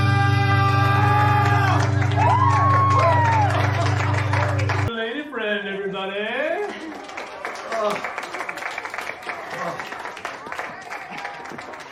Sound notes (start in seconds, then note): 1.7 cheering, applauding; 6.6 applauding